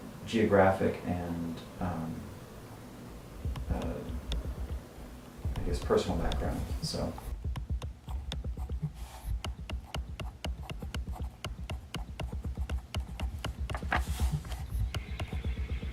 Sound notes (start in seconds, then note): 11.8 pen writing on paper